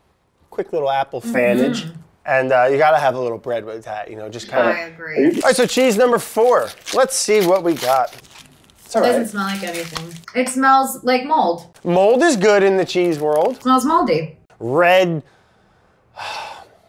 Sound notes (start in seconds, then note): 16.1 sighs